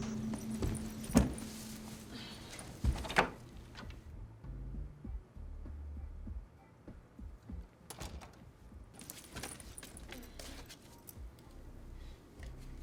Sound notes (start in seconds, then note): 0.3 bag thuds